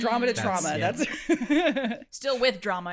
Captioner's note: laughs